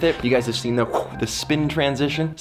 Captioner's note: blows air